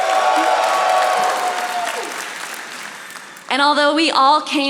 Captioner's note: audience applauding